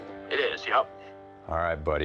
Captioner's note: on phone